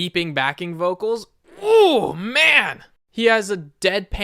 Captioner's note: music nerd happy noises